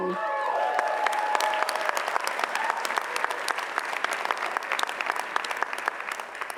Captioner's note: audience cheers; audience applauds